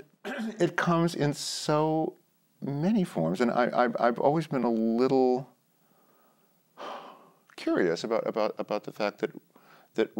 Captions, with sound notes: >> AND IT COMES IN SO MANY FORMS, AND I'VE ALWAYS BEEN A LITTLE -- [ SIGHS ] -- CURIOUS ABOUT -- ABOUT THE FACT THAT